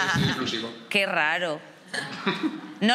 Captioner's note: laughing